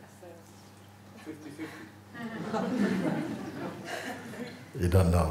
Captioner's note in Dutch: gelach